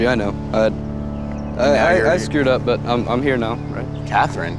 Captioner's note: stutters